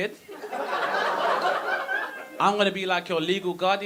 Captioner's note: audience laughing